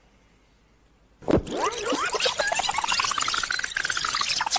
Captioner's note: tape squealing